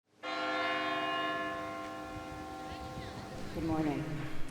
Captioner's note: church bell ringing